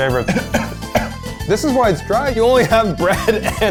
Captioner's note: coughing